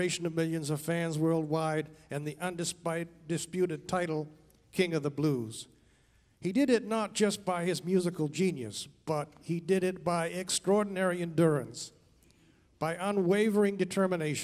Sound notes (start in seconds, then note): none